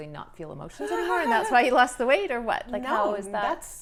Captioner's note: laughs